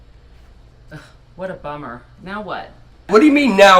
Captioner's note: scoffs